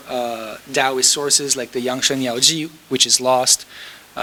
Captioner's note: speaking foreign language